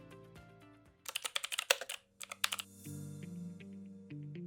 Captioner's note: keyboard clacking